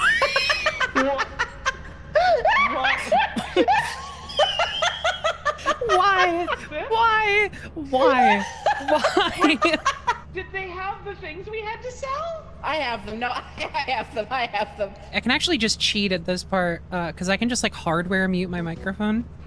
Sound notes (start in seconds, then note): 0.0 all laugh; 7.7 all laugh; 13.3 laughs